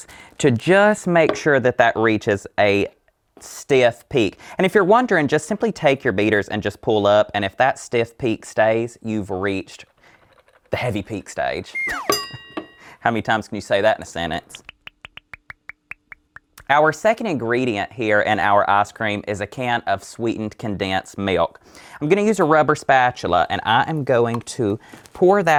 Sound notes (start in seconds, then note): 11.7 slide whistle